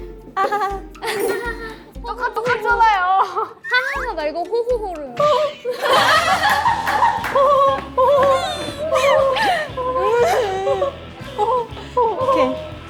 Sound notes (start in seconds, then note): 5.9 laughing; 9.2 laughter is addicting